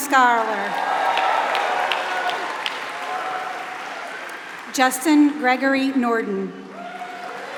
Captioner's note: applause